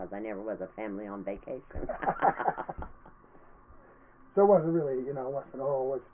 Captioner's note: laughing